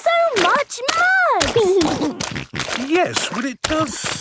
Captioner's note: snorting